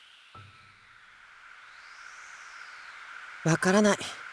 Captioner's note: silence; silence